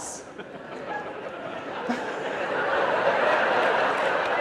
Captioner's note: audience laughing